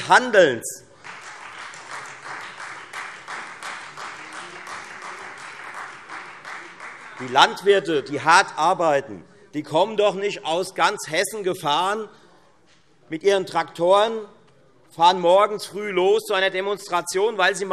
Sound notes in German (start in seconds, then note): 0.8 Beifall Freie Demokraten